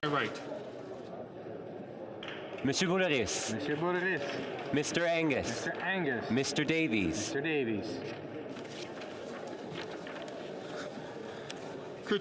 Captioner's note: calling of recorded vote